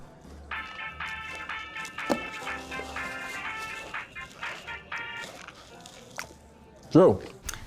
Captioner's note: cell phone rings